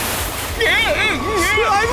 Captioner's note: british noises